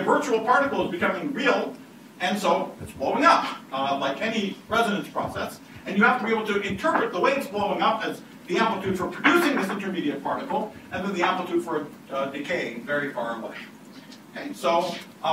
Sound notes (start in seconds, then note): none